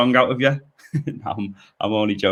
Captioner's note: giggles